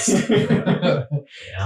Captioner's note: laughs